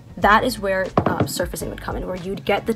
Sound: mug clunks

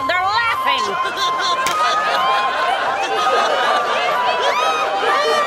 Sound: townspeople laughing

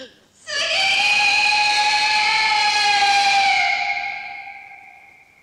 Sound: screams

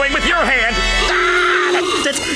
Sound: screaming

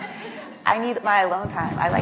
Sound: laughs

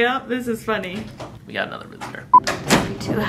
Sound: door opening

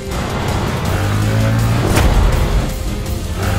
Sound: bike revving

